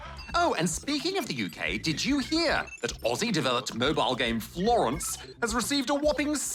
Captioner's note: none